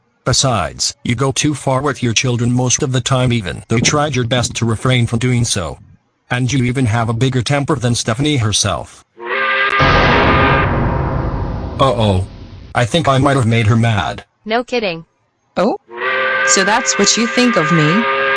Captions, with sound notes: Besides, you go too far with your children most of the time even though you tried your best to refrain from doing so. And you even have a bigger temper than Stephanie herself. (angry work whistle) Uh oh! I think I might've made her mad. No kidding! Oh?! So that's what you think of me?!